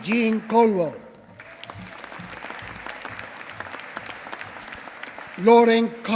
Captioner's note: applause